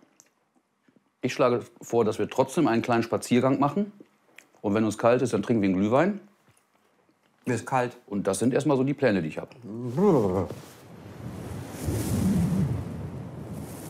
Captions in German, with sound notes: Ich schlage vor, dass wir trotzdem einen kleinen Spaziergang machen. Und wenn uns kalt ist, trinken wir einen Glühwein. Mir ist kalt. - Das sind erst mal die Pläne, die ich hab. Brr! (Starkes Windrauschen)